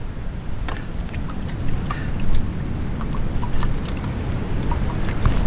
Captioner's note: glug glug glug